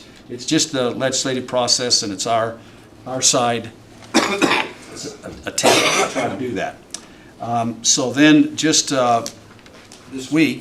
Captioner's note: cough